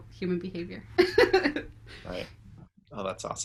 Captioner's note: laughs